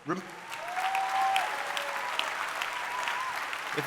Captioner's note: audience cheering